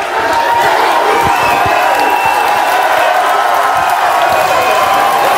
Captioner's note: audience clapping